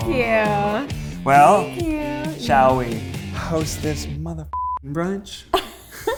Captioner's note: beep